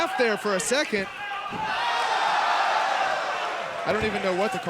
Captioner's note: audience shouting